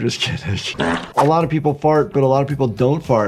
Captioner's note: character farting